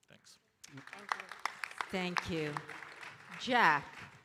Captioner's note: audience applauding